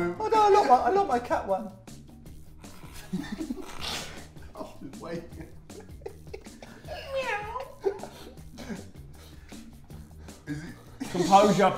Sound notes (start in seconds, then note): 3.0 laughing; 7.3 meow